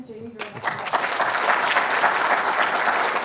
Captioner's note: applause